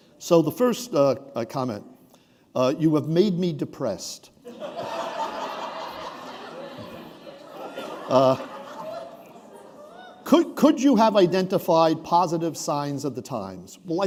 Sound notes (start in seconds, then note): 4.4 laughter